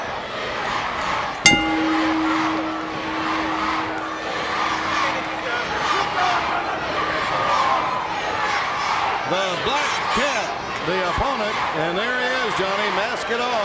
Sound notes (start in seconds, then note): 1.4 bell ringing; 2.5 crowd chatter